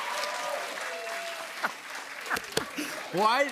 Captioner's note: cheers and applause; laughter